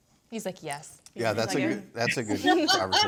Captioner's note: speakers laugh